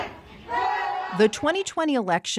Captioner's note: chanting